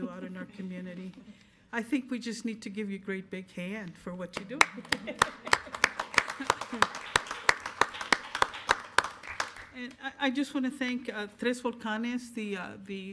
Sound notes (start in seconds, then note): 4.6 applause